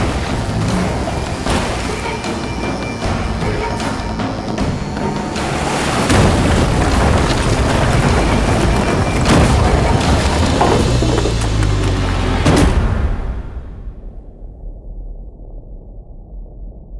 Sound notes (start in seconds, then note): 6.0 loud crash; 12.4 loud thud, fade to silence